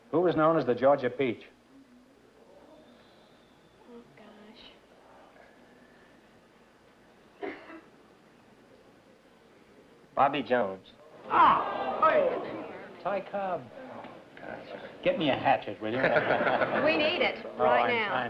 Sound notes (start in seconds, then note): 11.2 groans